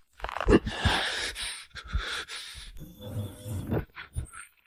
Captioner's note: hiss